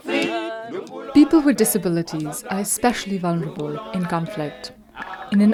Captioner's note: voice-over